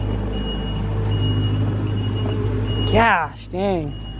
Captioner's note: truck beeping